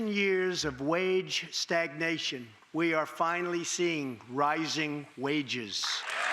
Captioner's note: applause